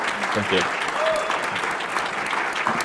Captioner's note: applause